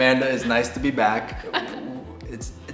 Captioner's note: laughs